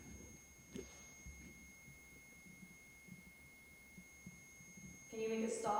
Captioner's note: sustained ringing tone continues